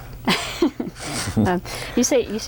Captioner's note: laughter